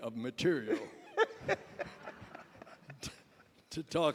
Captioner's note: laughter